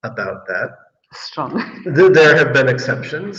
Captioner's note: laughs